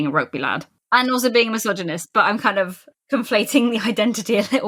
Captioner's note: laughing